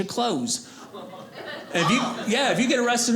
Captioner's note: audience laughing